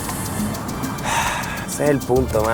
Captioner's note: Ender breathes